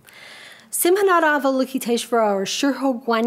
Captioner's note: speaks a foreign language